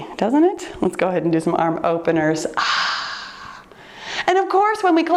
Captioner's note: sighs